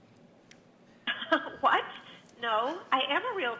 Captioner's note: laughs